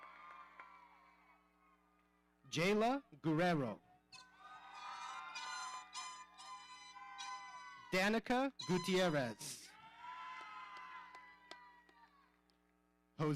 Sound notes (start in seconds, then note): 0.0 audience cheering; 4.1 audience cheering; 4.9 horns blowing; 8.6 audience cheering